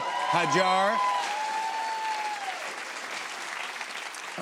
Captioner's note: cheers and applause